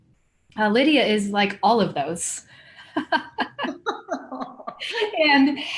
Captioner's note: laughing